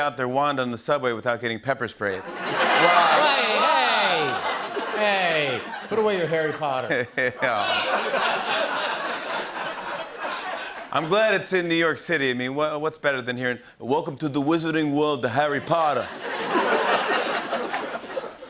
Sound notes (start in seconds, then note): 2.3 laughter; 7.1 laughter; 13.4 brooklyn accent; 15.6 laughter